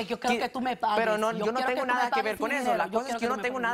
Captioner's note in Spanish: Hablan al unísono